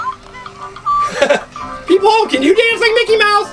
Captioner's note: laughs